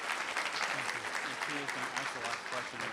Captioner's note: applause